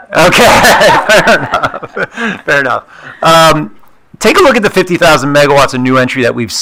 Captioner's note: laughs